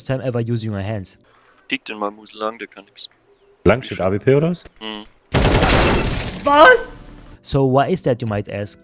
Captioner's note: German Counter-Strike noises